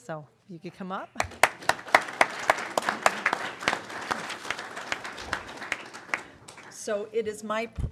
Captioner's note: applause